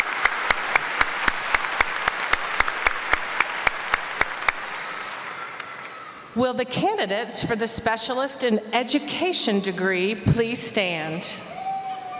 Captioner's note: applause